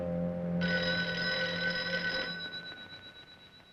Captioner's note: phone ringing